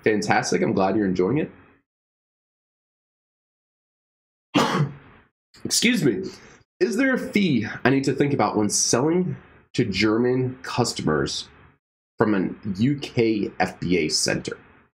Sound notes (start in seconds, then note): 4.6 sneezing